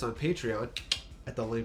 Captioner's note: seductive clicking